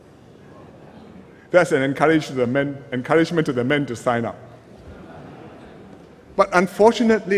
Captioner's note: laughter